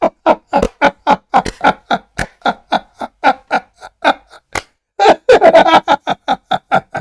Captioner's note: Ketawa